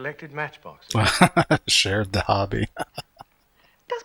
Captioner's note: laughing